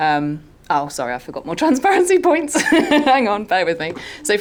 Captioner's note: laughs